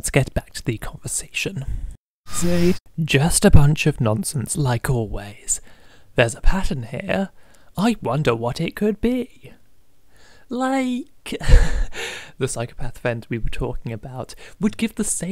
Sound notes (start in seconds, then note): 2.2 very brief rewind sound; 7.2 sarcastically; 10.8 laughs